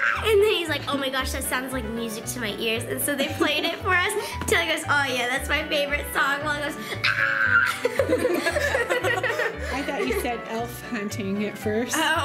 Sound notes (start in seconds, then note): 7.0 screaming; 8.8 laughing